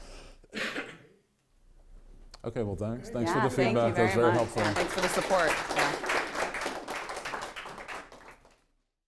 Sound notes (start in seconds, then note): 5.4 audience applauding